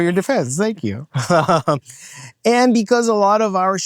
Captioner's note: laughs